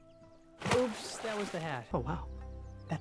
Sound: splash

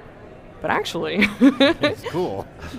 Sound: laughing

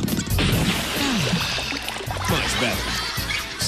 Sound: yells; sighs

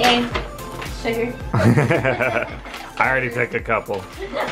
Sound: all laughing

